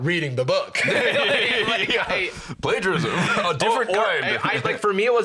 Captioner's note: laughing